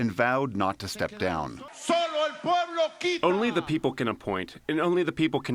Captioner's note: through translator